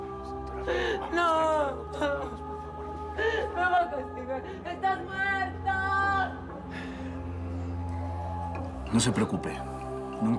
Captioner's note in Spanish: Sollozos